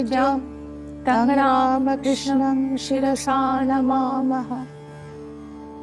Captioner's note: chanting